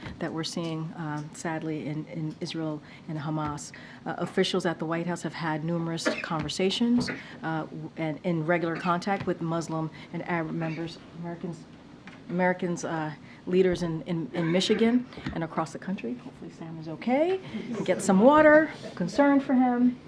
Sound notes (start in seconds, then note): 10.6 aide coughs; 14.4 aide coughs